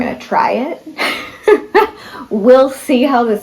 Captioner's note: laughter